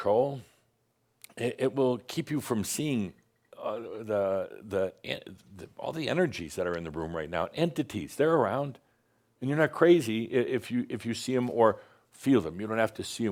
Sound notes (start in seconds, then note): none